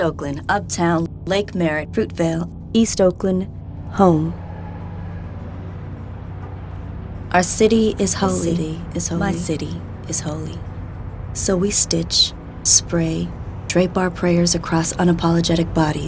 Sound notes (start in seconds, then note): 7.1 echoing